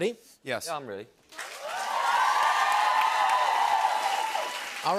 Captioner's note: cheers and applause